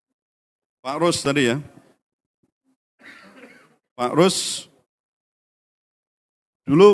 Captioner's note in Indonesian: berdehem